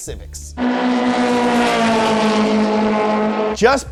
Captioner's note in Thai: คำรามของเครื่องยนต์